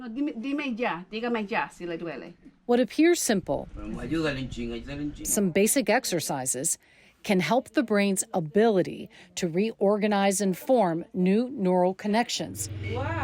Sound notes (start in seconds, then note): 0.1 doctor speaking in foreign language; 3.9 patient speaking in foreign language